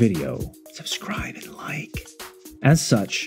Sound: whisper

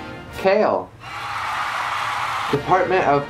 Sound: applause

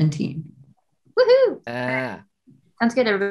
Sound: Michaela whoops

